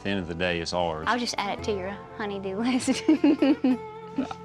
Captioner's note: chuckles